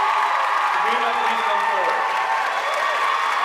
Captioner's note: audience cheering and applauding